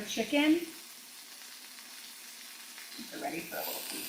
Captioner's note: chicken sizzling